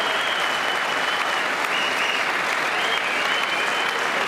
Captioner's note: applause